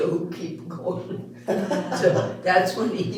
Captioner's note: all Laughing